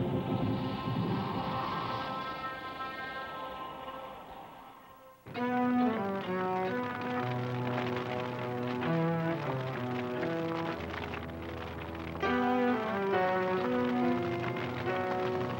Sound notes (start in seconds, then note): 7.1 fire crackling